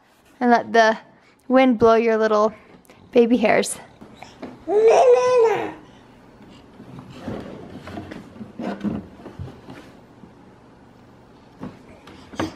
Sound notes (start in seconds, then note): 4.6 babbles